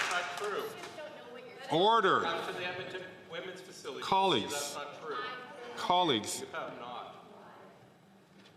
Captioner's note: some Applause